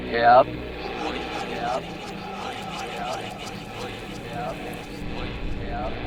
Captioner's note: ghostly noise